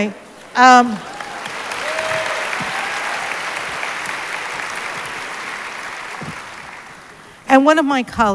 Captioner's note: applause